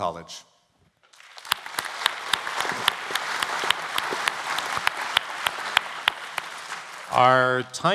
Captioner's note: applause